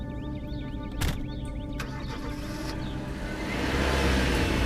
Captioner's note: car door clicks open; car door slams car engine cranks